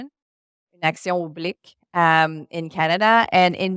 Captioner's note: speaking French